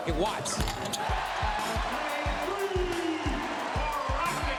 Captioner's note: cheering